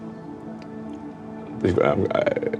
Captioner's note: stammering